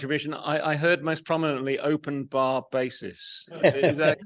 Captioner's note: laughs